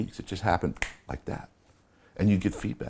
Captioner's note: snapping fingers